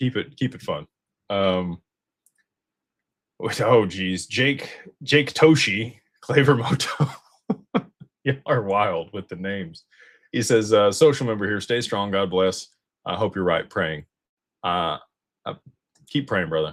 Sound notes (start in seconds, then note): 7.5 laughter